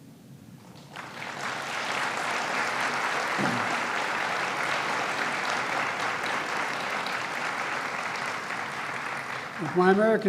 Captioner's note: applause